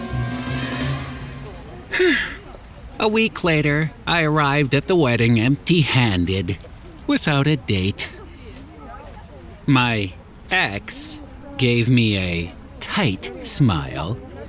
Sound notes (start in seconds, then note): 1.9 sigh